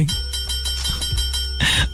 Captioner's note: bell ringing